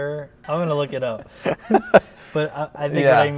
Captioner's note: laughs